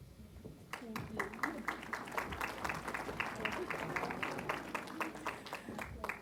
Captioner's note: applause